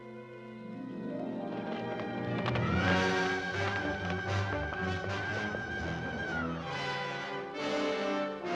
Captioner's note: sentimental music; sinister music; hoofbeats; sinister music